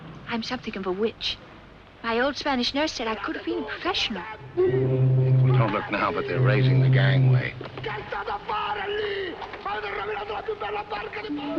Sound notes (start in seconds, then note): 4.3 Captain of SS Nyanga shouting in the background; 7.6 Captin yelling Italian